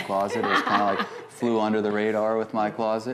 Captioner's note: laughter